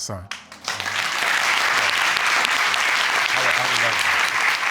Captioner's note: audience applauds